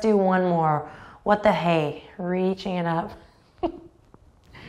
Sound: chuckles

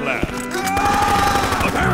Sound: yelling

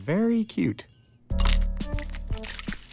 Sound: crack

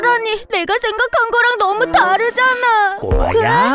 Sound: yells

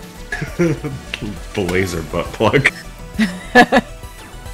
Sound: laughing; more Laughing

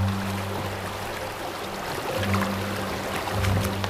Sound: river flowing

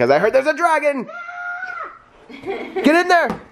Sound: screams

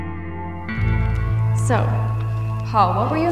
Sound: voice-over

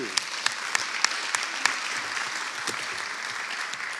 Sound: audience clapping

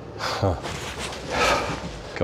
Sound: chuckles

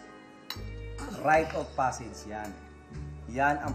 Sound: coughs

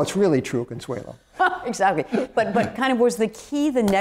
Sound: laughter

